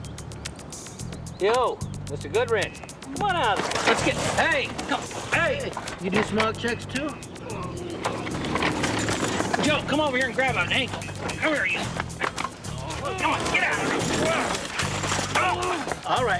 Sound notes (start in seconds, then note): 7.4 man grunts; 15.1 grunting